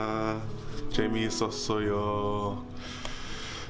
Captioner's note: speaks Korean